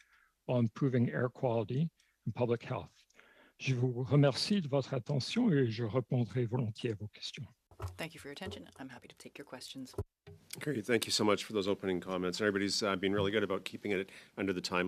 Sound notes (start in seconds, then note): 6.9 speaking French